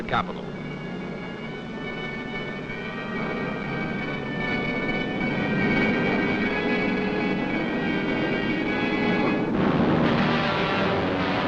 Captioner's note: aircraft noise